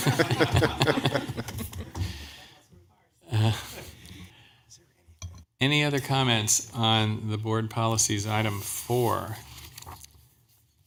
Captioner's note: laughter